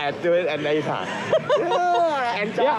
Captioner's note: laughing